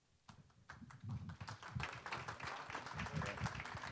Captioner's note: applause